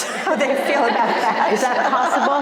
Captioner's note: crowd laughing